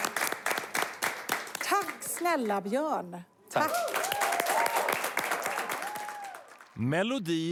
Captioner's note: Applåder